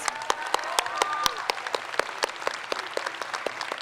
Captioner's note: crowd applauds